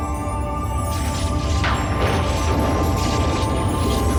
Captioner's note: rumbling